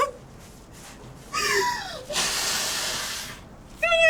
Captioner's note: cries and blows nose